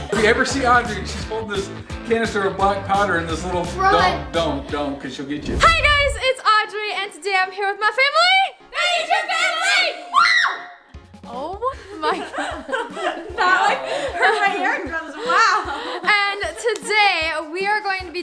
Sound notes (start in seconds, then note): 9.4 screaming; 9.4 cheering